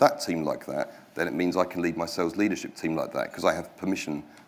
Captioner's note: none